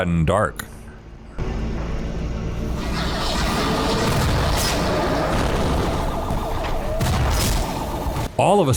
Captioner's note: the ambient hum continues, overlaid with sirens